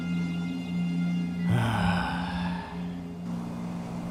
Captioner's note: heavy sigh